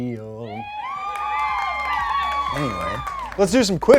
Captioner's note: crowd applauding